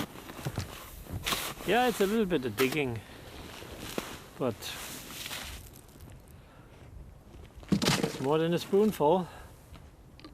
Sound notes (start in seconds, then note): none